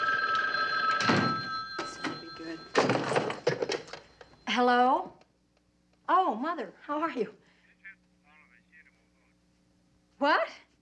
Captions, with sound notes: This better be good. Hello? Oh, Mother, how are you? [Emily chattering on phone] What?